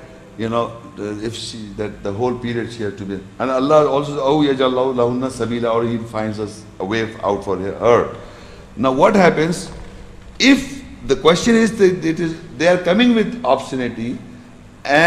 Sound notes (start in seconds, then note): 4.8 Arabic